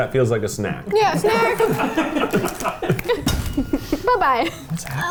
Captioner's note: everyone laughs